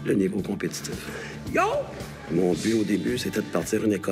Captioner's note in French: cri de karaté